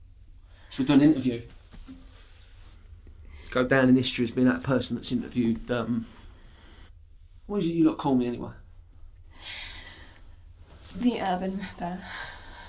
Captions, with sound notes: So, we do an interview. Go down in history as that person that's interviewed, um... What is it that you like to call me, anyway? (inhales) - The Urban Ripper.